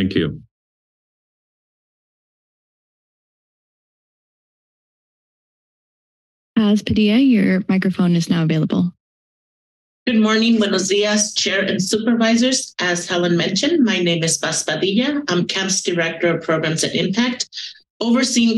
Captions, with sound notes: - Thank you. [silence] - Paz Padilla, your microphone is now available. - Good morning, Bueno dias, Chair and Supervisors. As Helen mentioned, my name is Paz Padilla. I'm CAB's Director of Programs and Impact overseeing